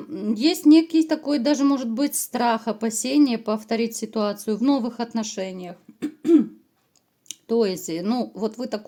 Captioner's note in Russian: откашливается